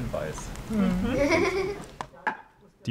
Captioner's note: laughter